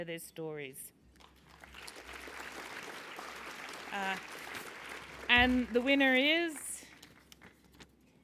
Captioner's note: applause